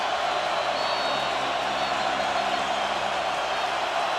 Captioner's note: whistle